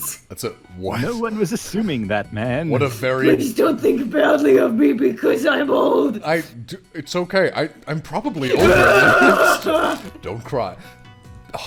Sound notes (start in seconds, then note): 8.4 sobbing